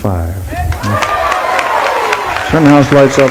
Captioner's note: applause